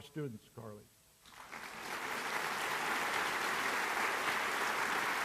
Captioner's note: applause